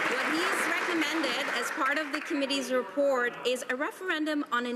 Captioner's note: some Applause